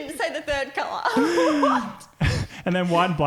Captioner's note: laughing